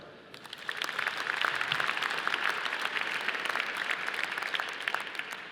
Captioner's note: audience applauding